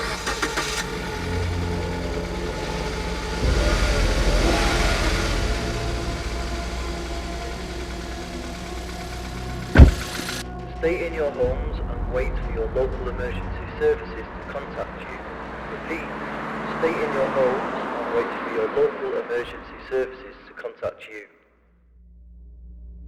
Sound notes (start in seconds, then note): 0.0 engine starting; 3.6 engine revving; 9.7 door shuts